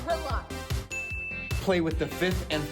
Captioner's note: ding